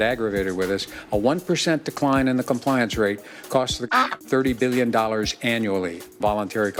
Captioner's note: duck Quack